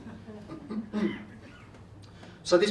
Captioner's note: clears throat